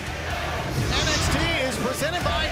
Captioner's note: fans chanting